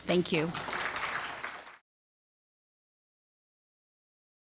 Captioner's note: audience applauds